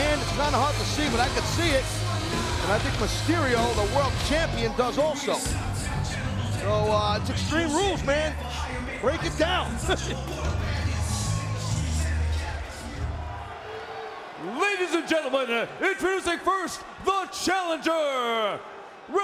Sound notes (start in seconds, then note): 9.7 Taz chuckling